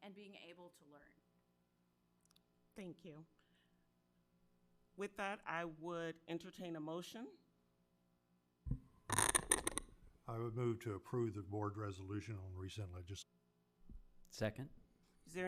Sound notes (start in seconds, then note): 9.1 mic cracking